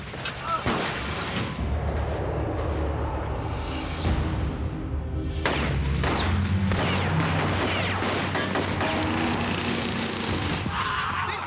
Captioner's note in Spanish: Disparos